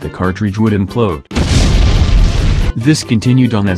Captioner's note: explosion Sound Effect